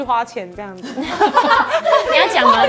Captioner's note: ahahaha